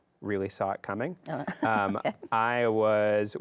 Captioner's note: chuckles